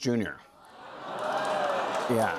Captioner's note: audience gasps, applauds